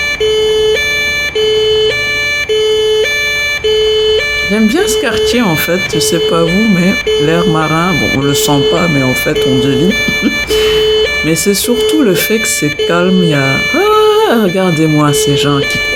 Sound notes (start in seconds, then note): 9.7 laughter